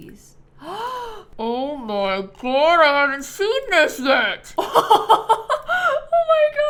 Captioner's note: gasps